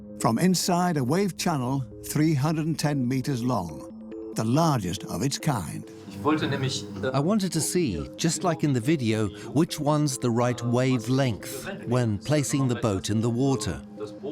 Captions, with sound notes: from inside a wave channel, 310 meters long, the largest of its kind. (in German) (dubbed in English) I wanted to see which one's the right wave length when placing the boat in the water.